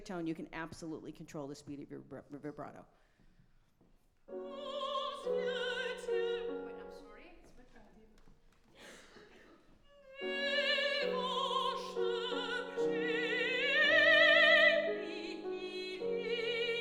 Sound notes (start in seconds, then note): 4.8 singing in a foreign language; 8.6 speaking faintly; 10.7 singing in a foreign language